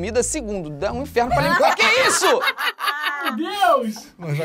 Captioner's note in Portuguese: risadas